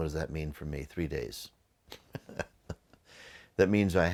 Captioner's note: laughs